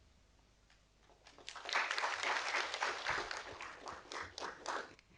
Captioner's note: audience applauding